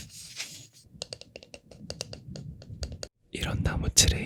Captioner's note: tap tap